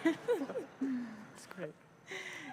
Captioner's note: laughter